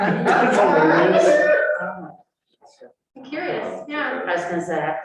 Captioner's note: laughter